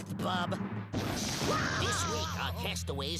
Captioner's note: Daffy screaming